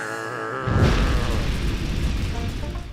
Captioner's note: fire crackling